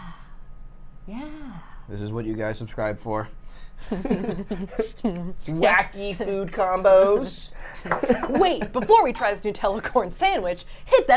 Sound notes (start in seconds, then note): 3.8 laughs